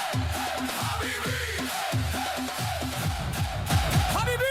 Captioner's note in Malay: menjerit